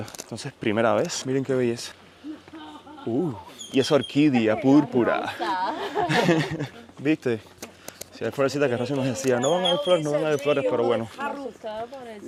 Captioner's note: laughs